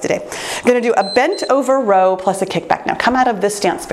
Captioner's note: timer beeps